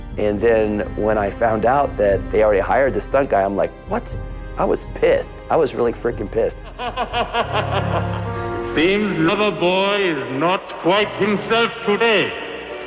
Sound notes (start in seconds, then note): 6.6 evil laughter